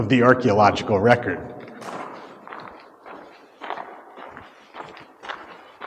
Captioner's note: footsteps